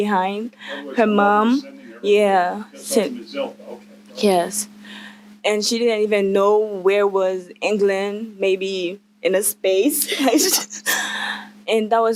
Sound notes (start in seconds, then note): 1.2 man’s voice off screen; 10.0 laughter